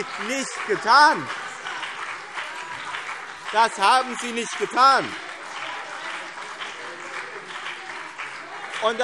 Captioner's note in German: Beifall BÜNDNIS 90/DIE GRÜNEN und vereinzelt CDU - Zurufe SPD